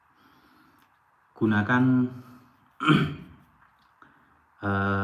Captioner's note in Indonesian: berdehem